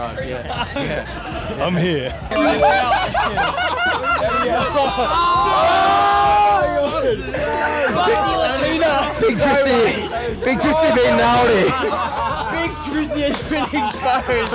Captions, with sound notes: Yeah, yeah. - "I'm here." (phone chiming) (group laughing) - Busty latina. - Big Twisty, Big Twisty been naughty. - Big Twisty has been exposed.